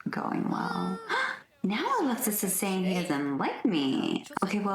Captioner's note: gasp